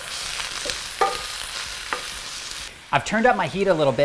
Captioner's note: vegetables sizzling